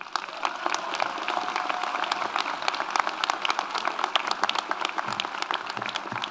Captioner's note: audience applauds; audience cheers